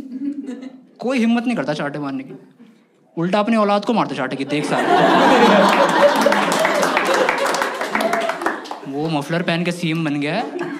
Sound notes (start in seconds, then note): 4.4 laughs; 5.6 Clapping